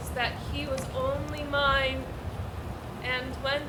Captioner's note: none